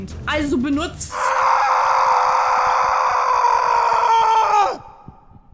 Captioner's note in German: Schreie